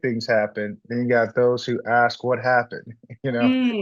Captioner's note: laughs